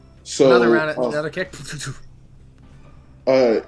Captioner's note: fight sounds